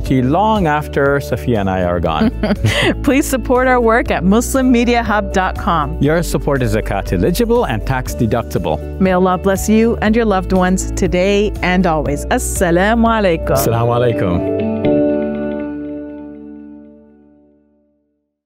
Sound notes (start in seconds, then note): 13.1 foreign language; 15.7 gentle music